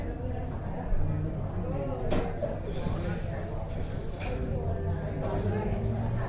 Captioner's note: noise of people talking in a cafe